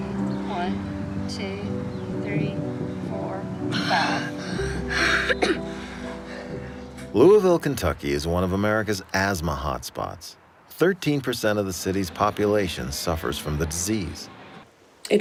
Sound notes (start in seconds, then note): 3.8 coughs